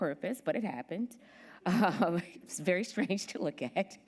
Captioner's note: laughing